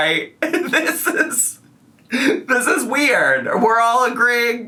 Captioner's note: laughs